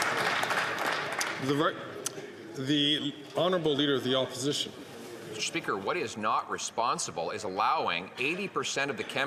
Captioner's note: some Applause